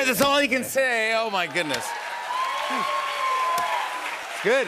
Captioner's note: cheers and applause